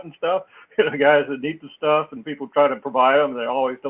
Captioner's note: laugh